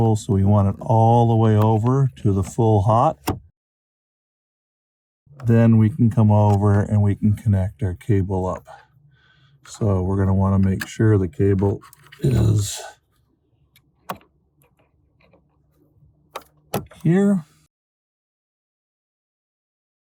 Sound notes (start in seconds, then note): 17.8 clip sound